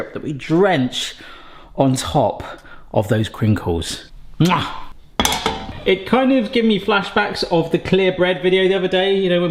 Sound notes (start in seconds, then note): 4.7 chef's kiss smacks; 5.2 pan clanks